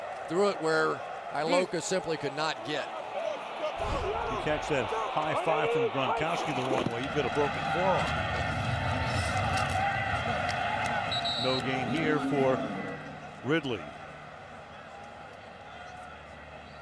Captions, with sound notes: there, threw it where Iloka simply could not get. To catch that high 5 from Gronkowski the wrong way, you'd get a broken forearm. [whistle blows] No gain here for Ridley.